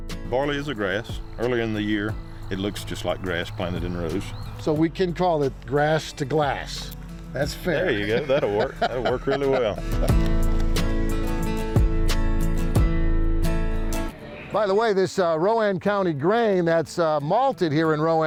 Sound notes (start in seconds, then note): 7.7 laughs; 10.2 gentle music